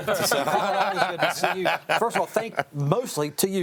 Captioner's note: group laughing